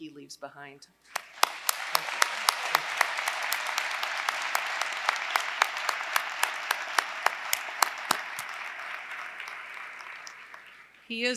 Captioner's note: applause